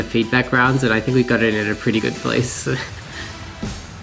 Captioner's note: chuckles slightly